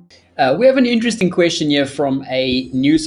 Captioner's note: voiceover